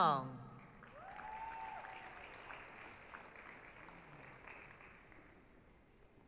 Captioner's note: applause, cheering